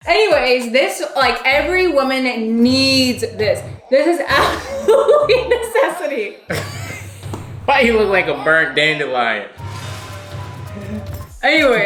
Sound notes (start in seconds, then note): 4.0 laughs; 9.5 dramatic music